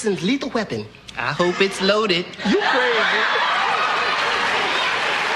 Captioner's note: Risos